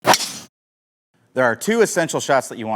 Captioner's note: swing Sound